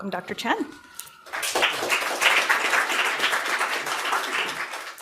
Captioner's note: audience applause